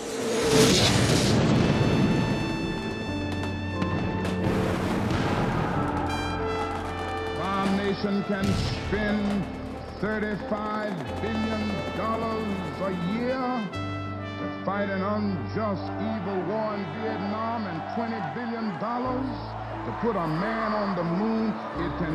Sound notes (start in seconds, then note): 0.0 jet engine roaring, explosion; 3.3 gunfire, more explosions